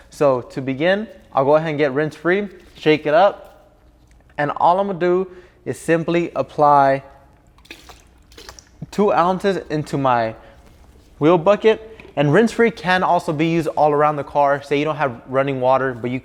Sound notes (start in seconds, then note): 7.4 splashing